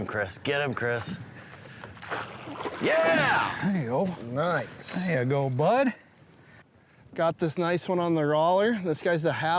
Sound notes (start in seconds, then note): 1.9 water splashing